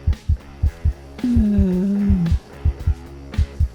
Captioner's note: sighs